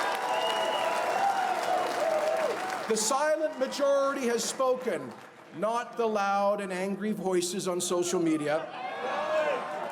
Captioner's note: cheers and Applause